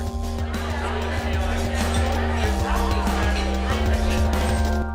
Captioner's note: restaurant commotion